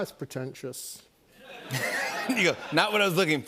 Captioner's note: laughter